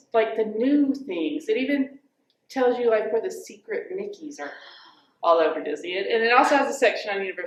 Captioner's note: gasps